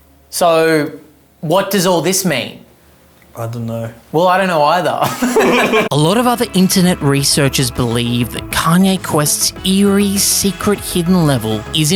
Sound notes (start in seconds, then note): 5.0 both laugh